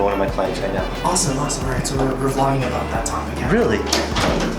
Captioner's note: male Voice